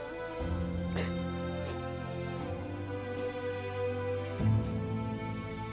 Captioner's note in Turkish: Halime ağlama sesi